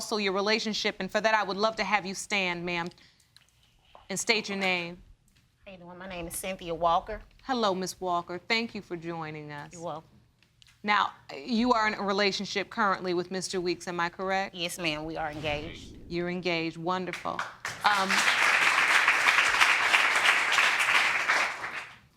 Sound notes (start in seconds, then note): 17.3 audience applauding